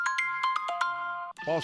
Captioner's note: sound of iPhone ringtone